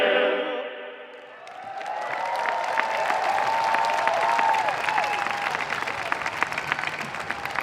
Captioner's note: audience applauding; audience cheering